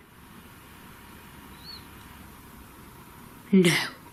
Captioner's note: squeaking sound